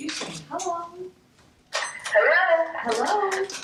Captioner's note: switch clicking and saying “Hello!”